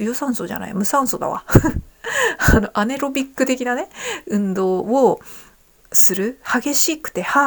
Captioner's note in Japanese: 笑い